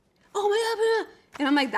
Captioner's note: speaks gibberish